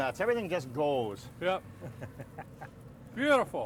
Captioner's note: laughing